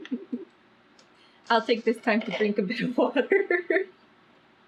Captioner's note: laughs; laughs